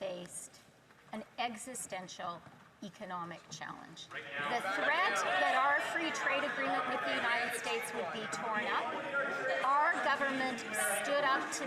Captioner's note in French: voix de l'interprète